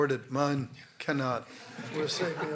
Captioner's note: laughter